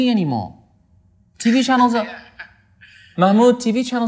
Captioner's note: laughs